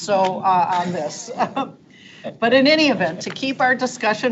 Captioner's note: board members chuckling